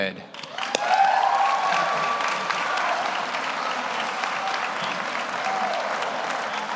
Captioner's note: audience applauds; audience cheers